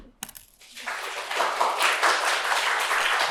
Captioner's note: applause